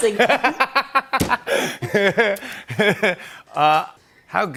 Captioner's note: laughs